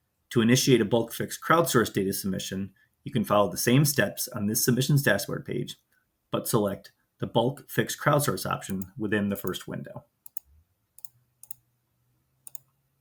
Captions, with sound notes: To initiate a Bulk Fixed Crowdsourced data submission, you can follow the same steps on this Submissions Dashboard page, but select the Bulk Fixed Crowdsourced option within the first window. [Mouse clicking]